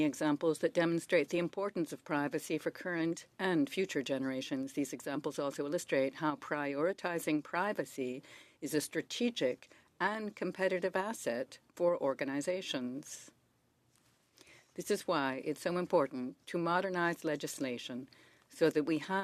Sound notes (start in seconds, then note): 3.4 speaking French